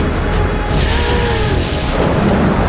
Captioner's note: gasps